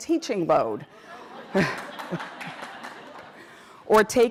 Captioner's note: laughter